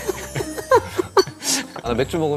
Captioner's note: haha